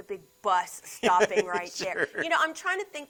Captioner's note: laughs